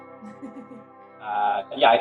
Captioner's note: laugh